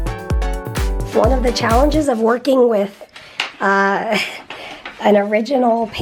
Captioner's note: laughs